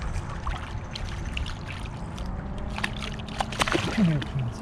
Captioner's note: fish splashing